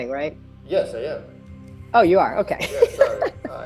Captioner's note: laughs